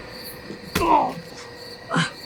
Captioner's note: very tense music; flesh squelching